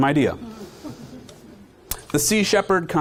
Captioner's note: audience chuckling